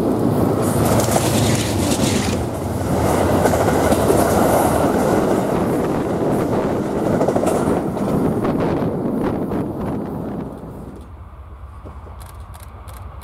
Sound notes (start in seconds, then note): 2.0 train